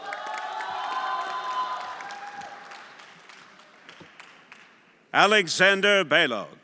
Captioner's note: everyone applauding and cheering